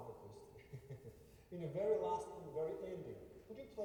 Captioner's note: laughter